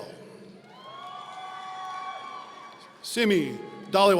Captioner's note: audience cheering